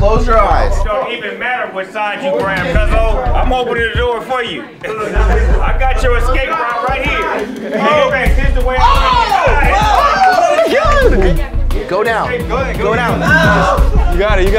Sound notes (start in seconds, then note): 4.7 laughs; 8.5 men exclaiming